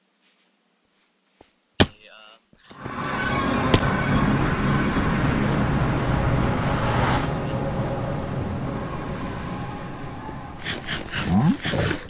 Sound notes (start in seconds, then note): 2.5 earrape nether sound; 10.6 eating noises